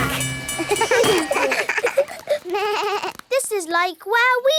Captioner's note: all laugh